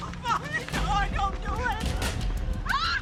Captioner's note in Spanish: Gritos